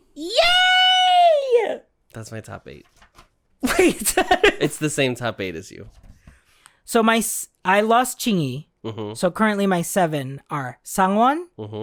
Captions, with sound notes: YAY! That's my top eight. [giggling] Wait. It's the same top eight as you. So my s- I lost Ching Yu. So currently my seven are Sang Won,